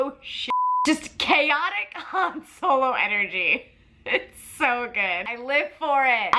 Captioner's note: beep; laughs